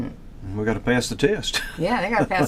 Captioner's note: laughs